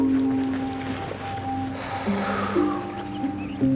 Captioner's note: sighing